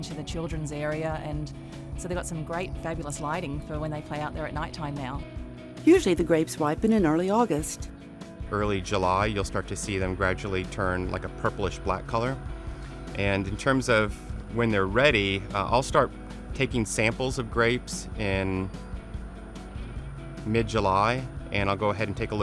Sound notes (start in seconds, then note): 5.7 voiceover